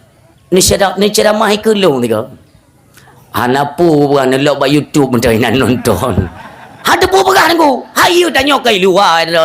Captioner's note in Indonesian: tertawa